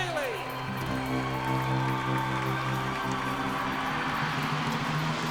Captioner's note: cheers and applause